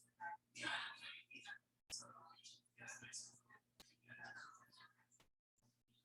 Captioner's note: people chattering indistinctly